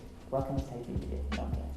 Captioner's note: muffles speaking